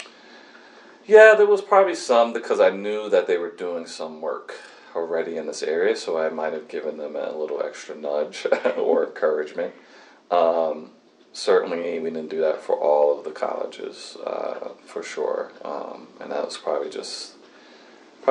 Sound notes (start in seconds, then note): 8.4 laughs